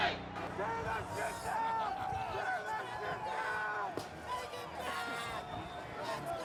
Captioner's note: chanting